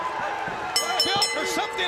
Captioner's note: bell ringing